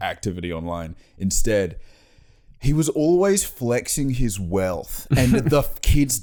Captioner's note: Australian accent